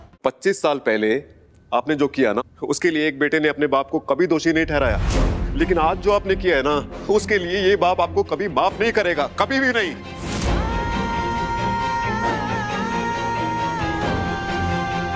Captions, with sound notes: For what you did twenty-five years ago a son never blamed his father. But, this father will never forgive you for what you did today. Never! [emotional vocalising]